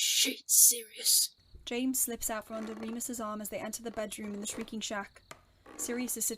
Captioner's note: floorboards creak